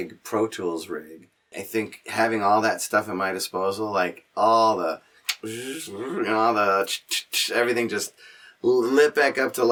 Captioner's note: makes machine noises